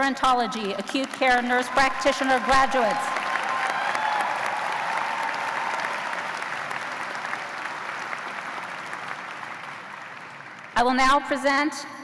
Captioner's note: cheers and applause